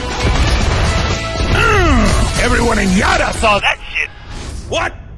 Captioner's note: yells